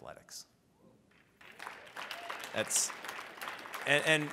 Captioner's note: audience applauds